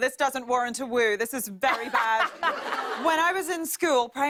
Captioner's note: laughter